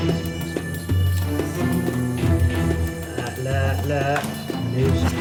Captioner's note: speaking in foreign language